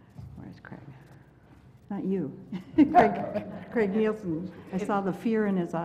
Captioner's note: laugh